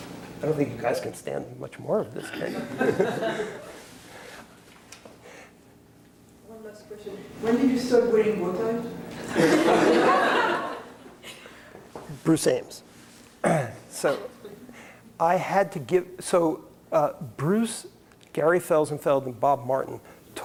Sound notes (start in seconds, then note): 9.2 laughter